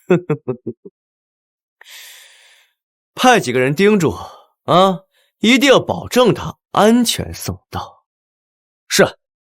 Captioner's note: chuckles